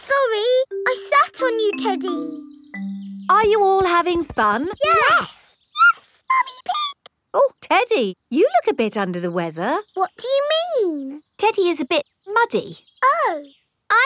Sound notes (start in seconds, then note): 5.7 in high-pitched voice; 10.2 in normal voice